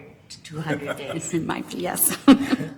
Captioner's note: laughs